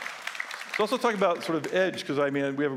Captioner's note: applause